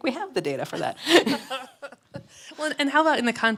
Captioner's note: laughs